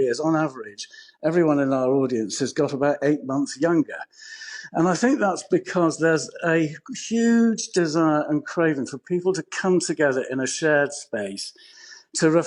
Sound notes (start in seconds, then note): none